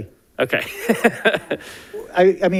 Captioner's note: laughs